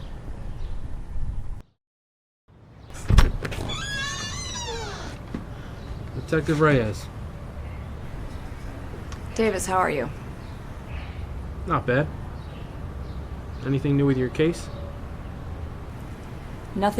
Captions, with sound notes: (door creaking open) Detective Reyes. - Davis, how are you? - Not bad. Anything new with your case?